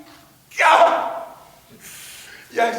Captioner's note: screams in agony, due to the plague